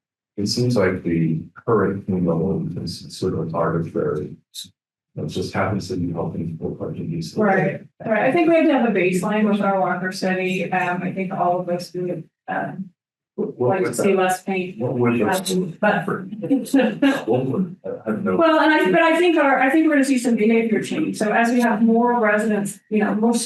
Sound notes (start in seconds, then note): 16.3 person laughing